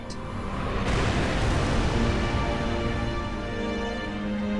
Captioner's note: explosions; somber music